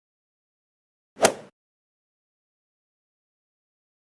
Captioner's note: golf ball hit sound effect